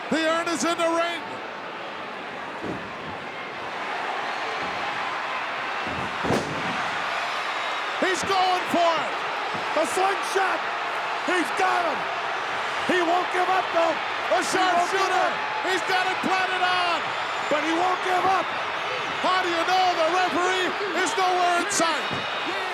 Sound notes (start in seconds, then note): 3.8 crowd cheering; 6.3 body thuds